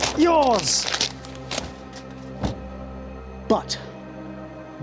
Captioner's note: paper rustling